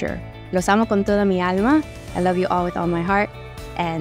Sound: woman with white shirt speaking Spanish

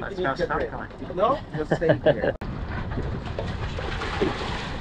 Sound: laughs

